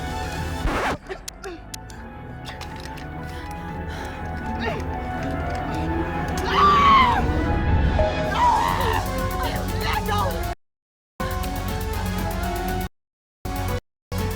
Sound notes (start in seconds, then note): 0.3 gentle upbeat music; 6.4 Miss. Fang screaming; 14.1 gentle upbeat music